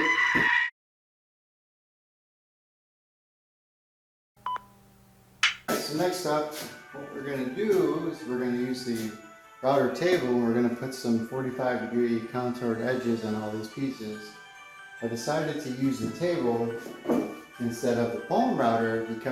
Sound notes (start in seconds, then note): 2.5 star screams; 4.4 beep